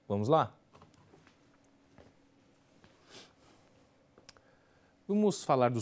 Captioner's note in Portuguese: silêncio